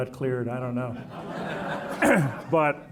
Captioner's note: audience laughing